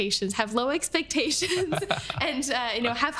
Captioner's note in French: rires